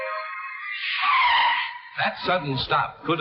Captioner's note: car tires screeching